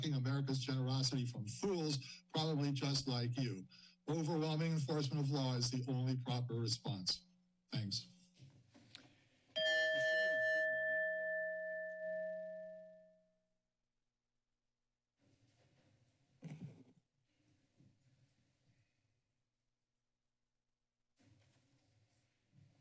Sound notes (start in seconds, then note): 9.5 chime; 13.6 silence